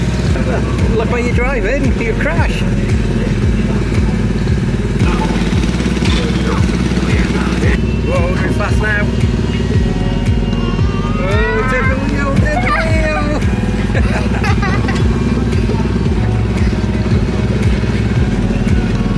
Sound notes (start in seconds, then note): 0.3 chuckling; 3.2 ride engine rumbling; 10.0 ride engine rumbling; 12.4 both giggling; 15.6 ride engine rumbling